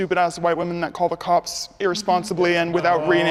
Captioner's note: ohs from the others